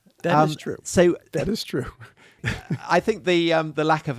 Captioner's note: chuckles